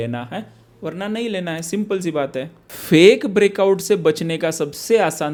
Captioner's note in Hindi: नाक से की जाने वाली आवाज़